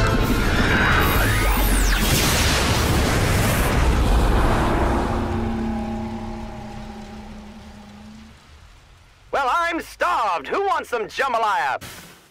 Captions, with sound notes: (explosion) (low droning noise) Well, I'm starved! Who wants some jambalaya?